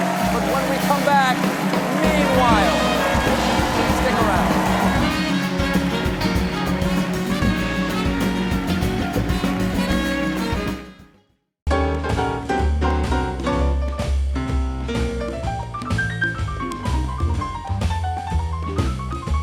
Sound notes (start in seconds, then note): 4.9 band playing; 4.9 cheers and applause